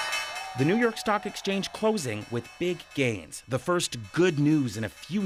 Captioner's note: bell ringing